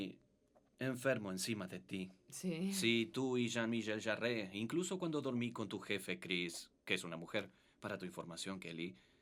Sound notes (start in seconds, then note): 2.2 speaks foreign language